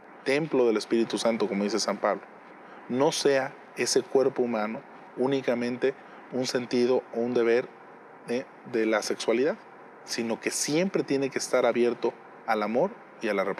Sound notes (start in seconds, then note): 1.4 speaking in Spanish